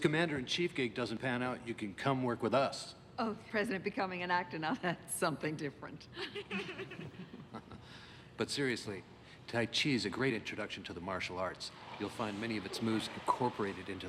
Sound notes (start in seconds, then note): 6.2 all laugh